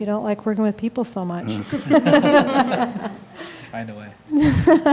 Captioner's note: laughing